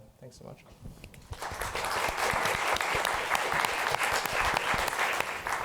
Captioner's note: applause